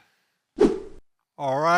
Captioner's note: wooshing sound as scene transitions